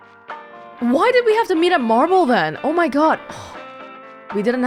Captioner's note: exhales